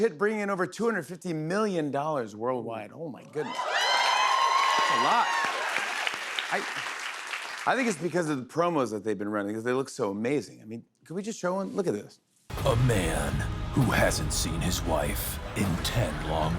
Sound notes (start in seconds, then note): 3.4 cheers and applause